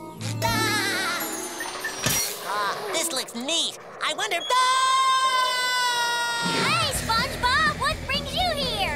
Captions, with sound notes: [laughing] Ah, this looks neat. I wonder... [screaming] Hey, SpongeBob. What brings you here?